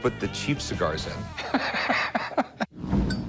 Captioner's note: laughs